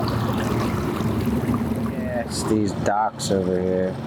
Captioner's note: boat humming